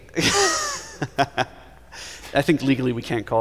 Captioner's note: laughter